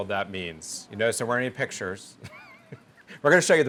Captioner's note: laughs